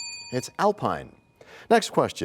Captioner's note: bell rings, time expires